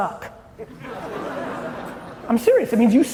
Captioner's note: audience chuckling